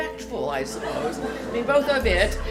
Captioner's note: laughter